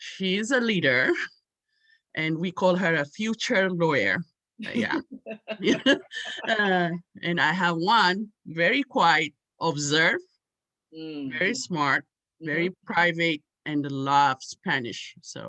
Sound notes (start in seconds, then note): 4.6 both laughing; 4.7 laughs